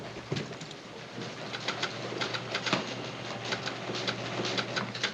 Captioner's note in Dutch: typemachine klakkend